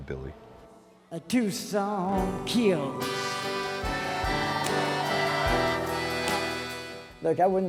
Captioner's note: crowd cheers